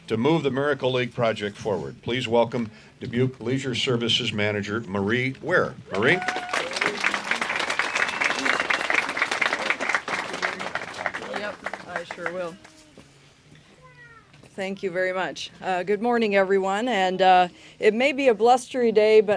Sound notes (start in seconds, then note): 5.9 applause